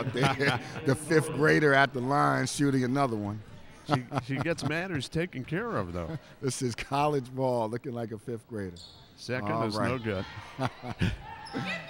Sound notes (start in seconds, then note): 10.3 chuckles